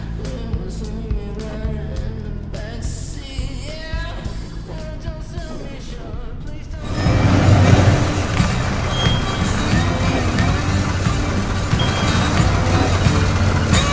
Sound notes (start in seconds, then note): 6.8 deep swishing; 10.5 twangy country music